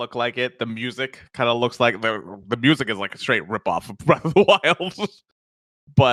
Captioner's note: laughs